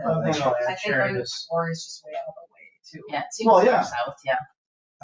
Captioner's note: people chattering